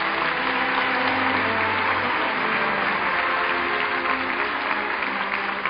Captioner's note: audience applauding